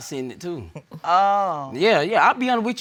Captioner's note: sarcastically